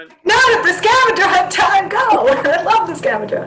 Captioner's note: laughs